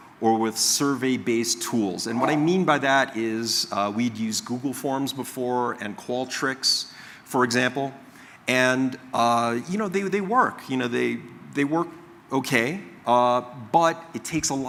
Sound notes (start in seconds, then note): 2.1 coughing